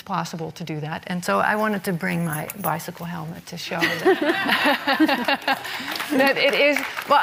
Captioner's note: laughs